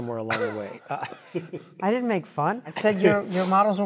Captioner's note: laugh